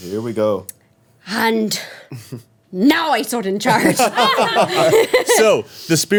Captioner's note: everyone laughing